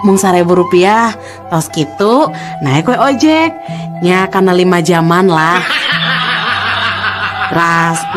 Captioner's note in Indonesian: tertawa